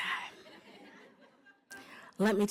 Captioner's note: laughter